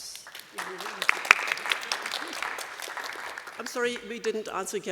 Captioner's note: applause